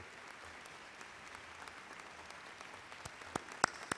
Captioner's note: audience applauds